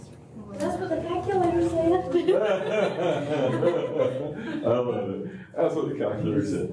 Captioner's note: laughter